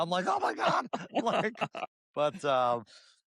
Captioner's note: laughter